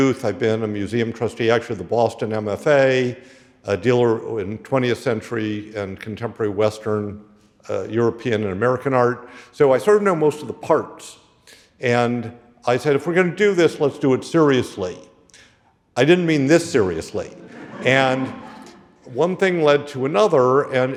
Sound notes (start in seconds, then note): 17.2 audience laughing